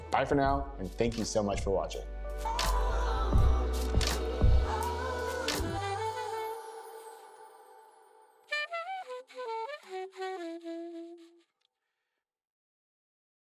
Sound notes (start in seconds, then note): 2.4 upbeat music; 8.4 horn blowing